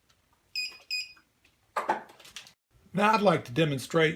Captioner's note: beeping